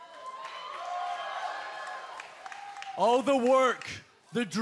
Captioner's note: cheers and applause